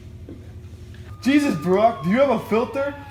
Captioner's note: sirens wailing